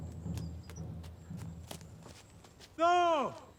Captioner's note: footsteps thudding